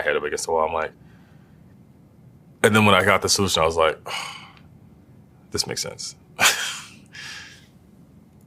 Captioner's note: laugh